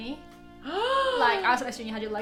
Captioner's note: gasps